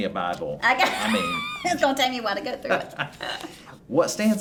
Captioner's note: laughing